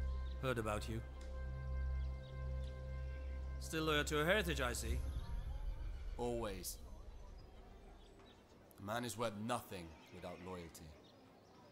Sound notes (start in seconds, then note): none